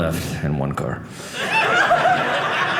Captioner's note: audience laughing